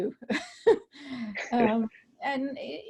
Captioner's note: laughter